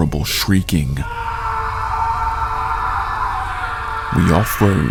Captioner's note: man shrieking